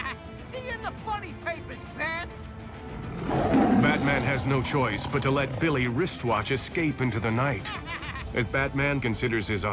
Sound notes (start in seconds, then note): 2.8 tigers growling; 7.6 laughs